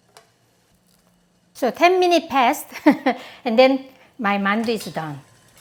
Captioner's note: laughs